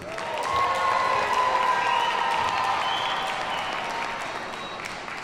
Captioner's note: audience cheers and applauds